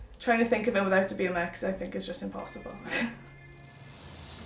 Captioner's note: chuckles